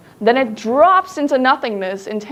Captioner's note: none